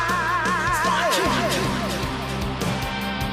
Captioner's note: fading echo